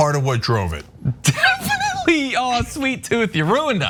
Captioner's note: laugh